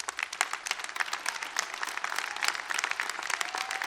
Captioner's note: applause